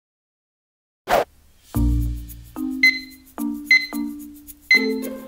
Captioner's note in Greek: Μπιπ μπιπ